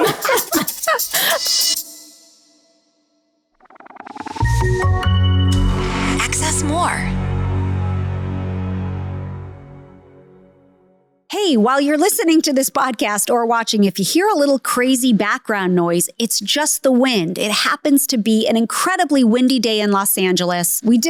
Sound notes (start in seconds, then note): 0.0 laughing; 4.2 bright music; 6.1 automated Voice